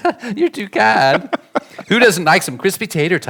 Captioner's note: chuckles; laughing